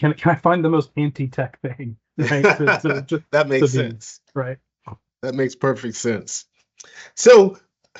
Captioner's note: laughs